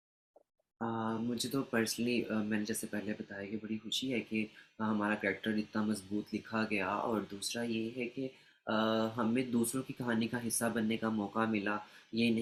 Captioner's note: answers in Urdu